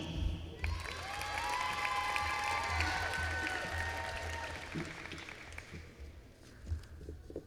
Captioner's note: applause